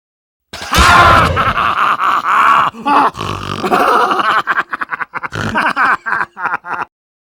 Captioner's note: laughs at the missfortune of another person